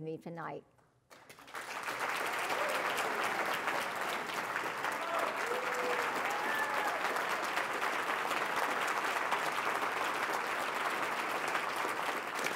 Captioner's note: applause